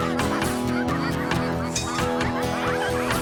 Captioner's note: ducks Quacking